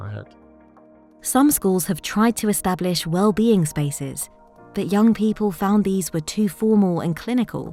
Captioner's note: automated Narration